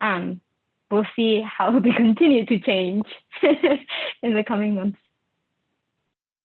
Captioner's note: laugh